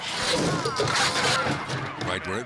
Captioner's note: car thuds